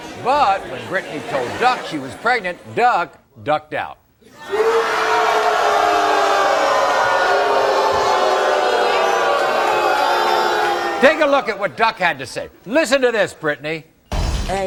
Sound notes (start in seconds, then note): 4.3 audience booing